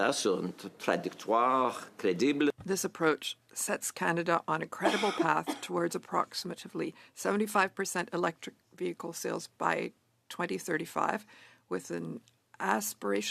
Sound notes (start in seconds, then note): 2.3 speaking French